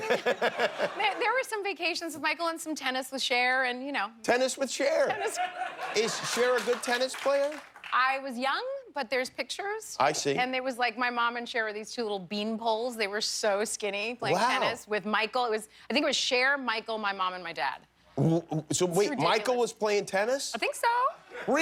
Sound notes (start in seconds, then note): 7.9 laughter